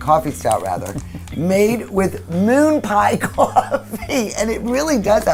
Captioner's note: laughs